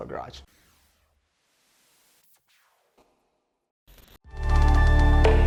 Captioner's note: air whooshing; upbeat music